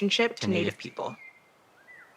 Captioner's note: in Unison